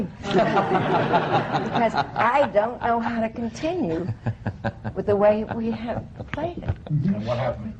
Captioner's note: laughter